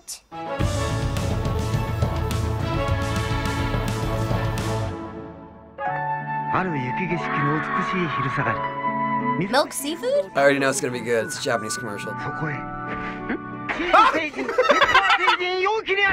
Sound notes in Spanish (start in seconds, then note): 0.3 fanfarria; 6.4 Narrador habla japonés; 12.2 Narrador habla japonés; 13.8 Riendo a carcajadas